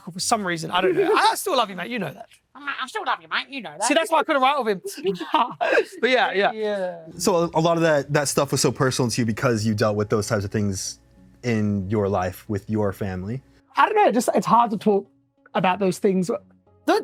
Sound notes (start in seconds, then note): 2.7 mockingly; 3.8 giggles